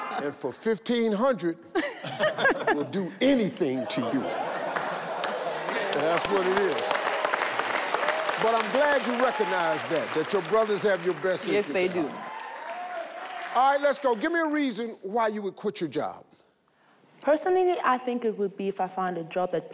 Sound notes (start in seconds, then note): 1.7 laughs; 4.8 all clap